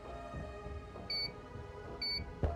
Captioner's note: beep